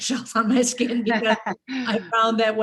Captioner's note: both giggles